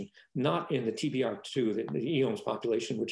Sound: speaking faintly

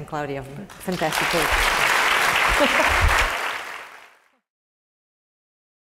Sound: laugh; applause

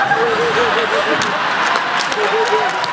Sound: laugh

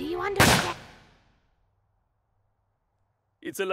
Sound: gunshot

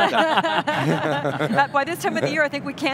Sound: laughs

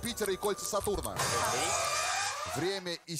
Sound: siren

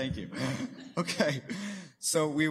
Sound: chuckling

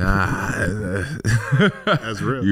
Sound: laughs

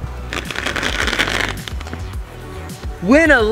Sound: velcro ripping

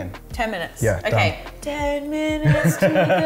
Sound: laughs

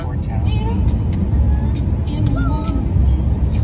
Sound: radio playing

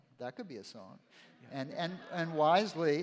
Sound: laughter

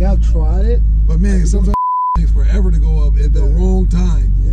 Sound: beeps

